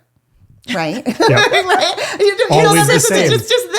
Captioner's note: laughing